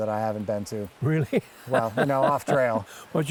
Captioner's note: laughs